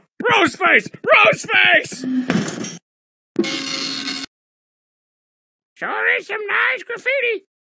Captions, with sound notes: Aaah! Rose face! ROSE FACE!! [preeeeeow] Sure is some nice graffiti!